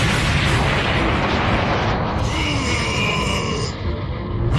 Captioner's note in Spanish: Gruñidos